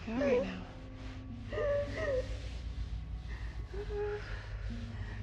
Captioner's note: Maggie crying